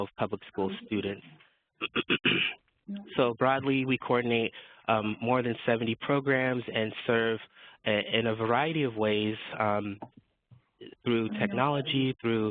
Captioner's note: cough